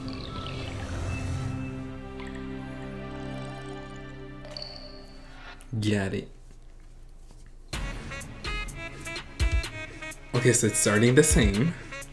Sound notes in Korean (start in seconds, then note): 4.0 또잉